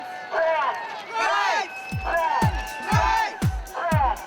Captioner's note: chanting